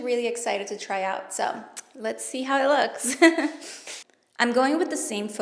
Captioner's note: laughs